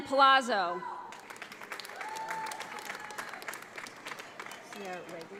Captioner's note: audience applauds